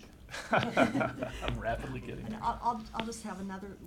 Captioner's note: laughing